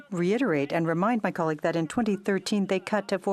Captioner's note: speaking in French